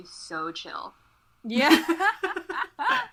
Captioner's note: hosts laugh